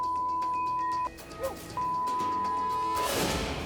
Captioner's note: beep